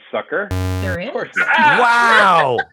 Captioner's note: error sound